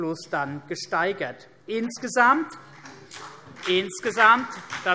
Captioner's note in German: Beifall CDU und BÜNDNIS 90/DIE GRÜNEN